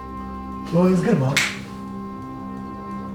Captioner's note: snaps